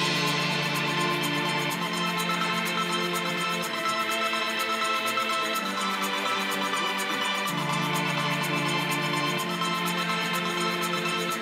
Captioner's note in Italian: Applauso